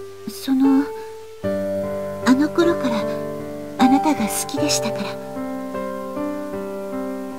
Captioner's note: rain